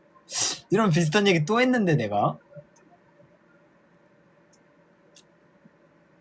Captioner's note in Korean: 콧방귀